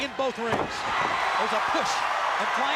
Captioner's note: crowd cheering